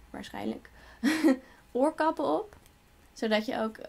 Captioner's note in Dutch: lacht